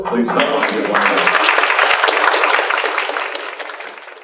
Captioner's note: applause